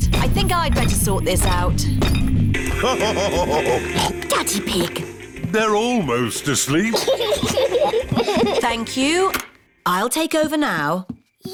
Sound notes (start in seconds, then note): 2.7 laughs / honks; 6.7 both laugh